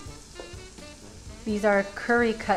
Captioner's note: mixture sizzling